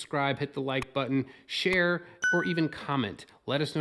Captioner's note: ding